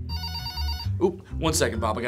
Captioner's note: telephone ringing